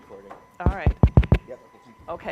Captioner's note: mic taps